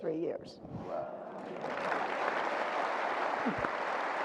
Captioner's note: audience applause